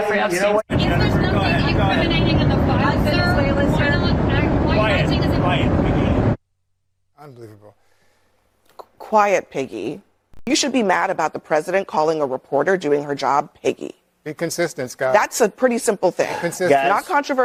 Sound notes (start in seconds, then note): 3.1 crowd chattering